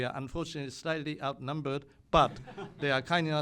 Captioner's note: laughter